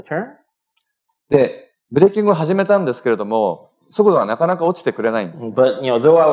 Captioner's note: speaking japanese